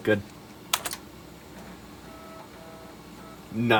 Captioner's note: floppy disk seeking noises